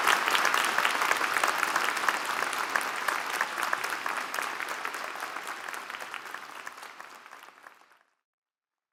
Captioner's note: applause